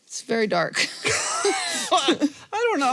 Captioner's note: both laugh